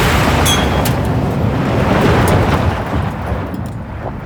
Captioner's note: whooshing